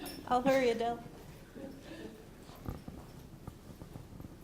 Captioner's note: laughter